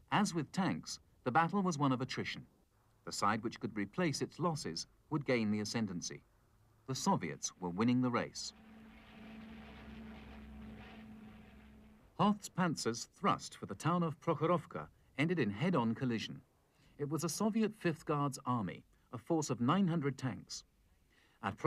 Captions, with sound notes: As with tanks, the battle was one of attrition. The side which could replace its losses would gain the ascendancy. The Soviets were winning the race. (airplanes flying) Hoth's Panzers thrust for the town of Prokhorovka ended in head-on collision. It was a Soviet 5th Guards Army, a force of 900 tanks.